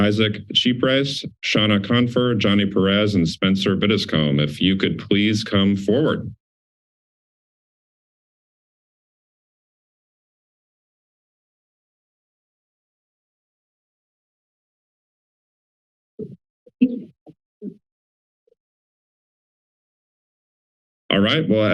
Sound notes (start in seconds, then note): 6.4 silence